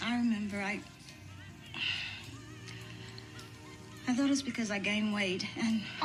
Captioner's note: sighs